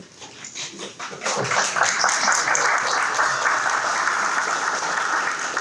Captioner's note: audience clapping